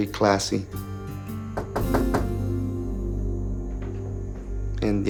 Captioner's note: knock on door